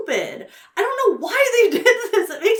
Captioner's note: laughs